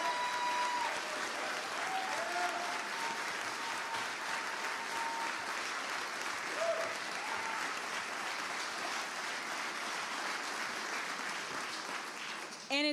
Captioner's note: applause